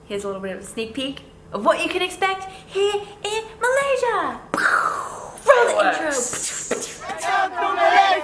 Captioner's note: making fireworks noises